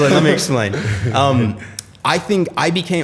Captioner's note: laughter